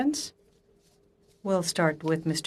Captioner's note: speaking French